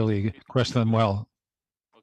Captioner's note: speaking French